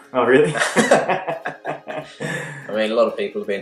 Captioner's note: laughs